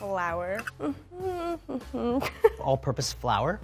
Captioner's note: humming